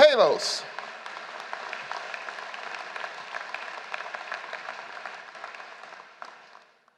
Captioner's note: applause